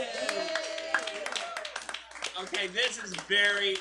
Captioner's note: applause